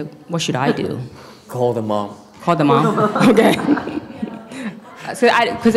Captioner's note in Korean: 웃음